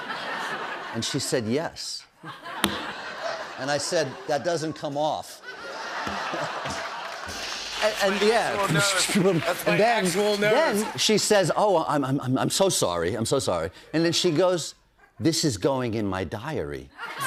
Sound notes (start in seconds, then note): 5.7 cymbals crash; 5.7 laughter; 7.3 imitates cymbals; 16.9 laughter